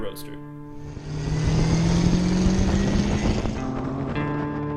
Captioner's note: car engine revving